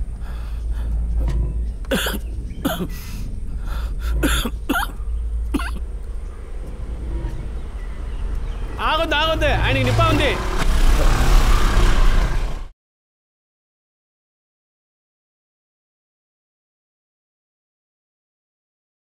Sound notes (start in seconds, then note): 1.6 coughing